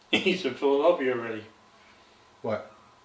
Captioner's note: laughs